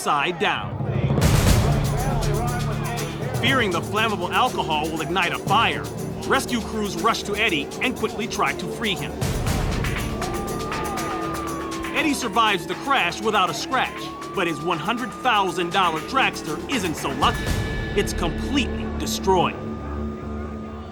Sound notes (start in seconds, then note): 12.6 siren wails